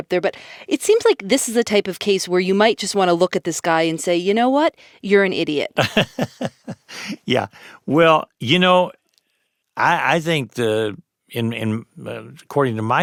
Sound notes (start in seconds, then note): 5.8 laughs